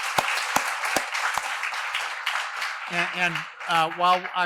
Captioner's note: applause